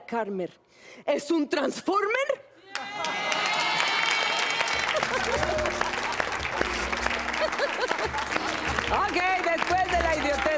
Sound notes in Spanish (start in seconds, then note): 5.5 Aplausos; 5.5 Risas